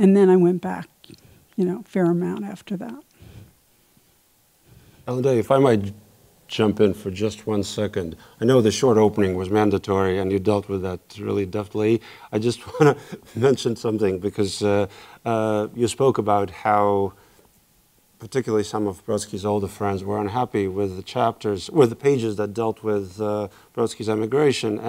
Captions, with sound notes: And then I went back, you know, fair amount after that. - Ellendea if I might jump in for just one second. I know the short opening was mandatory and you dealt with that really, deftly. I just wanna (chuckles) mention something because you spoke about how, particularly some of Brodsky's older friends were unhappy with the pages that dealt with Brodsky's emigration